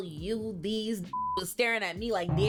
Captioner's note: beep